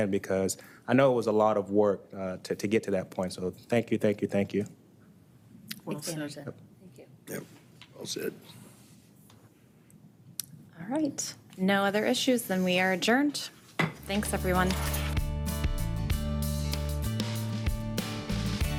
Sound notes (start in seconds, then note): 13.4 strikes gavel; 14.0 gentle music